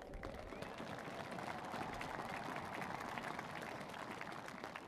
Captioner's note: cheers and applause